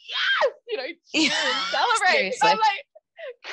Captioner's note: laughter drowns out speaker